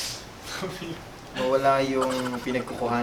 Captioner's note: giggles